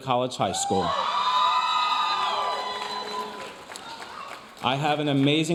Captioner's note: audience cheering and applauding